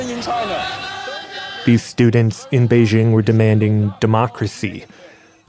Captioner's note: protest chanting